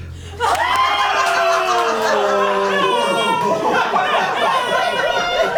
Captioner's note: colleagues gasping and laughing